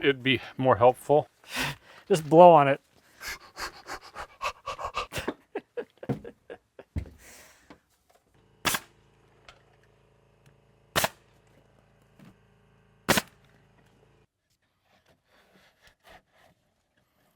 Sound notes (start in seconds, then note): 3.2 panting; 5.6 chuckles; 8.7 nail gun hissing